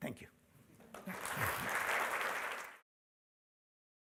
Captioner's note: applause